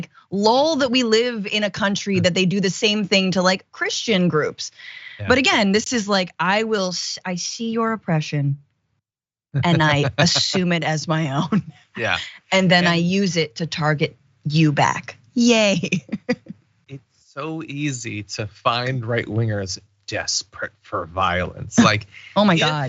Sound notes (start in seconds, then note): 9.6 laugh; 17.4 laugh